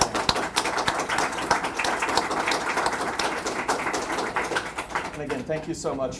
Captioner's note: applause